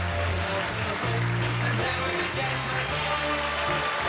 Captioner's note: applause